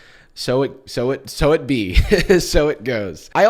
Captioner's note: chuckles